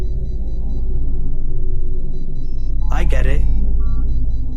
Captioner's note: machine beeps